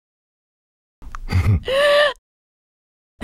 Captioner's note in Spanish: Coach se ríe